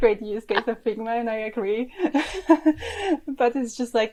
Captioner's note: laughs